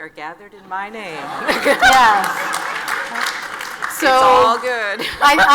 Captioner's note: audience laughs and applauds